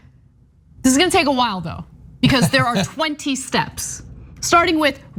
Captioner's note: laugh